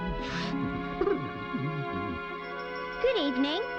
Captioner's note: gentle humming